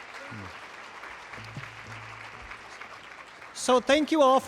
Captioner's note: applause